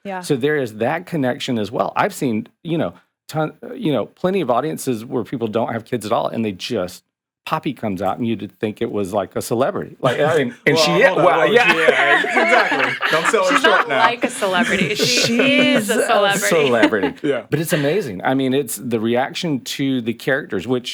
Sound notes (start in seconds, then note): 12.9 podcasters laughing; 16.0 laughs